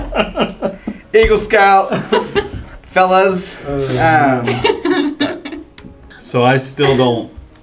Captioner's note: laugh